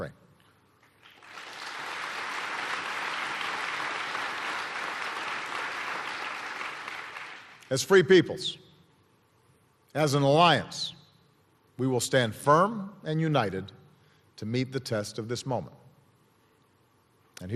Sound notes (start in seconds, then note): 3.9 applause